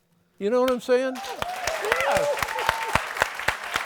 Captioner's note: applause